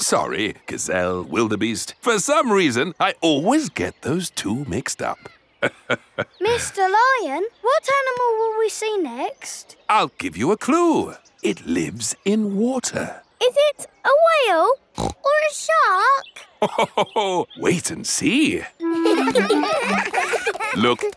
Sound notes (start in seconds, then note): 5.6 laughs; 14.9 snorts; 18.8 children laughing; 18.8 laughs